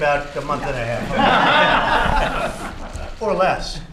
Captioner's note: laughter